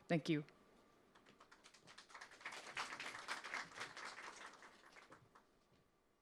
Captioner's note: applause